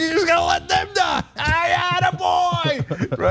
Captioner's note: laugh